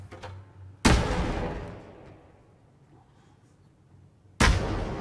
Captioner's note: explosion